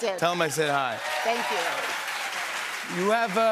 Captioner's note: cheers and applause